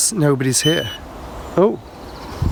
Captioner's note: beeping